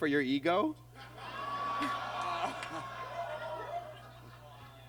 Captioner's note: audience groans